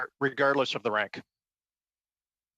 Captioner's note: speaking french